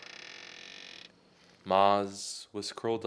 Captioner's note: creak